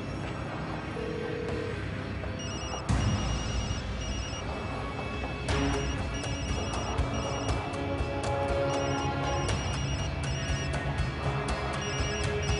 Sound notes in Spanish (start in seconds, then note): 2.4 Suena un celular; 8.7 Sigue sonando un celular